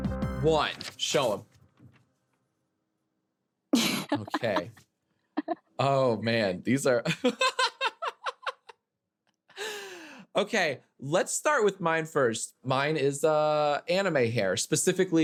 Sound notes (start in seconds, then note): 3.8 laughing; 7.3 laughing